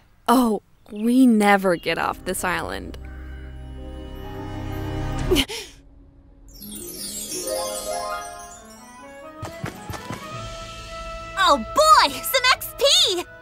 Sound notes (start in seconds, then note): 3.5 upbeat tense music; 5.5 Anya gasps; 6.4 instruments chiming; 9.5 upbeat calm music